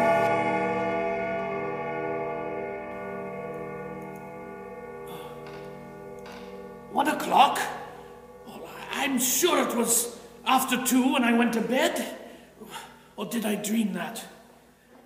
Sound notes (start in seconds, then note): 0.7 clock chiming one